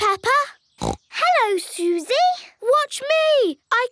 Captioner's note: snorts